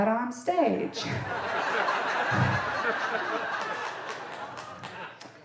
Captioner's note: audience laughing